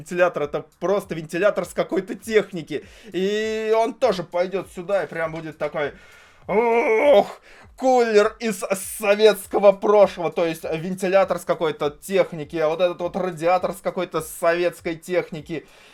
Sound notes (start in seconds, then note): 6.5 urghhhh